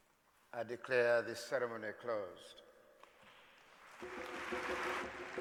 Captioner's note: applause